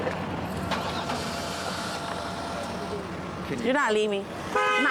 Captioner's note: engine ignition